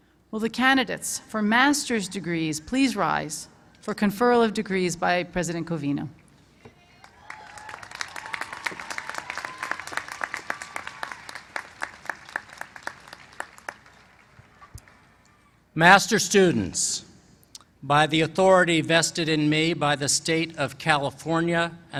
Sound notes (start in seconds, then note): 7.0 applause